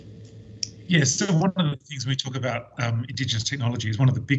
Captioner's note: audio distorts